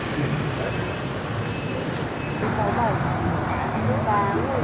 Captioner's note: rushing traffic and horn sounds; counting in a foreign language